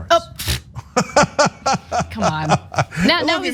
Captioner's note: laugh